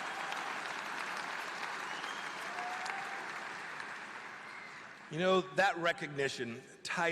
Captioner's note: applause